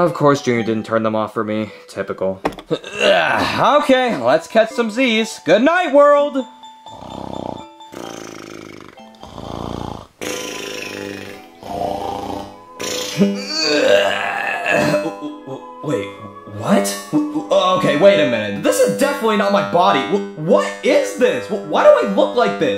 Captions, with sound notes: Of course Junior didn't turn them off for me. Typical. (Mario grunting) Okay, let's catch some Zs. Goodnight world. (snoring) (Mario snoring) (soft music) (Mario groaning) W-wait, what? Okay, wait a minute. This is definitely not my body. W-what is this? Why do I look like this?